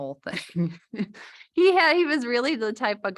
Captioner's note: laughter